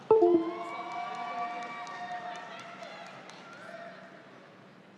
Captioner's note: audience applauds